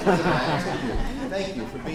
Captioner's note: laughing